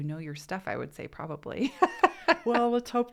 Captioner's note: laughs